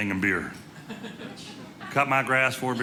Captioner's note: audience laughing